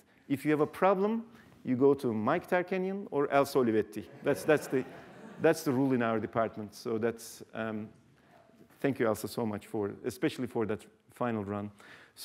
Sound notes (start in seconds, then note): 4.0 laughter